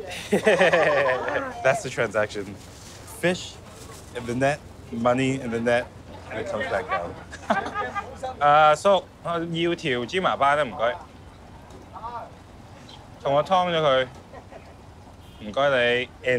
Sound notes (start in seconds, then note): 0.0 fisherman speaks in foreign language; 0.0 chef laughs; 8.9 speaks in foreign language; 12.0 fisherman speaks in foreign language; 13.5 speaks in foreign language